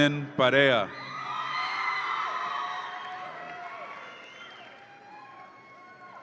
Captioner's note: audience applauds and cheers